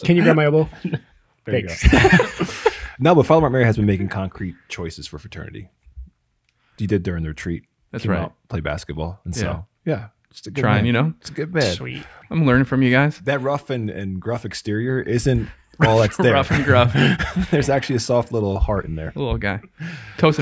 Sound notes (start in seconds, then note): 1.7 laughs